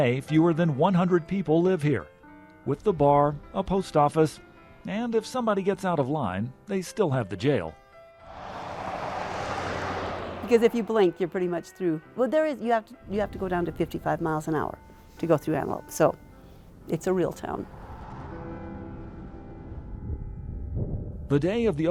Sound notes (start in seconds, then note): 8.2 truck whooshing; 20.0 wind whooshing